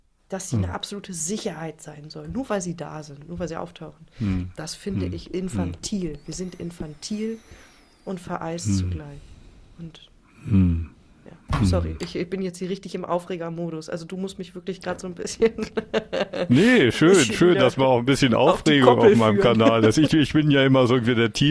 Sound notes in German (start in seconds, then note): 15.4 gelächter